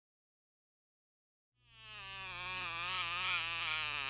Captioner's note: cries